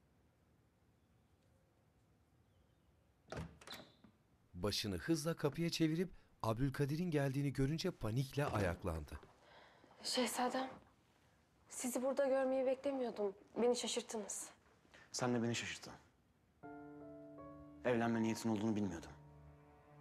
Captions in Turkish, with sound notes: (Kapı açılma sesi) (Kapı kapanma sesi) Şehzadem. Sizi burada görmeyi beklemiyordum. Beni şaşırttınız. Sen de ben şaşırttın. Evlenme niyetin olduğunu bilmiyordum.